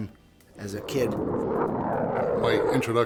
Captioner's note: jet engine